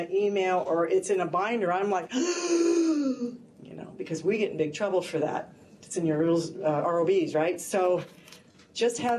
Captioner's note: gasping